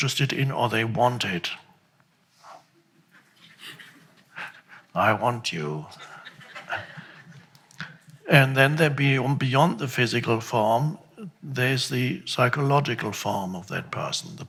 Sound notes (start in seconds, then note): 5.9 crowd laughs